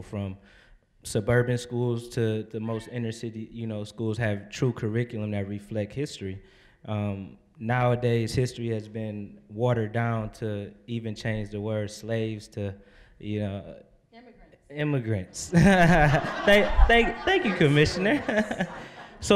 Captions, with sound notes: from suburban schools to the most inner-city schools have true curriculum that reflect history. Nowadays, history has been watered down to even change the word "slaves" to... >> Immigrants. >> "Immigrants." (audience laughing) Thank you, Commissioner.